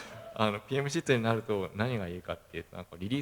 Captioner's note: laugh